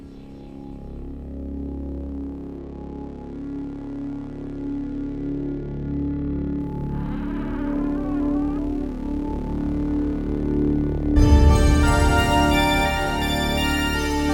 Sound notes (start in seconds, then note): 0.7 suspenseful music; 7.1 door creaking; 11.3 suspenseful music